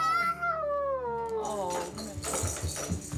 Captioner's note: wails